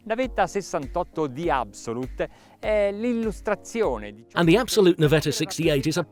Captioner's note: speaking in foreign language